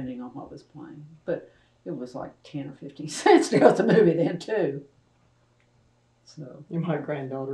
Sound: laughter

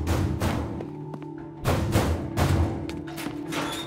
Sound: banging

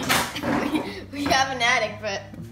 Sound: giggling

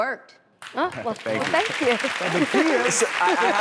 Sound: audience applause

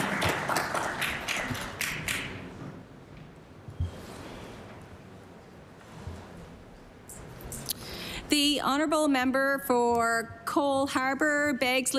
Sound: applause

